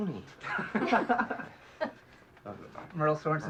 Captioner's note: laughs